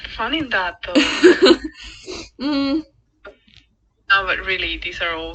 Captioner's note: laughs